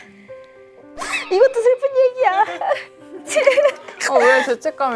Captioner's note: sigh